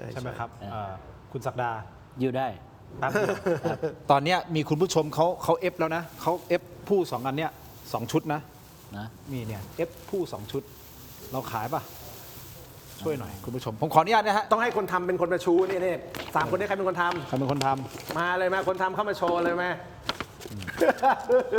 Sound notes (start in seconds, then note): 3.0 laughs; 20.6 laughs